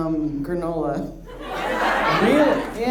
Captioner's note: audience laughs